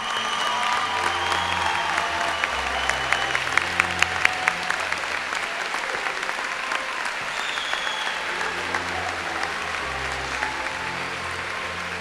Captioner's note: applause and cheering